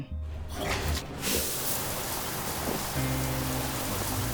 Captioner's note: water splashing; soft music